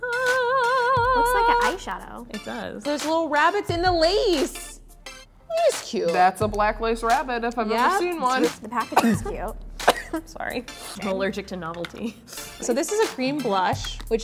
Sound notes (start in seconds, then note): 8.8 coughs